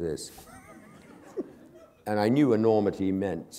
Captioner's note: laughter